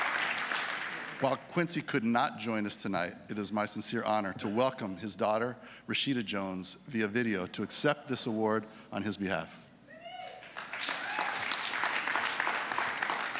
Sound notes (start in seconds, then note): 10.3 applause